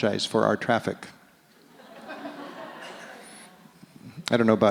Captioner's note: audience laughs